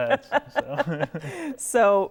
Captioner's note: laughing